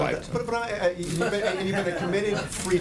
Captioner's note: laughter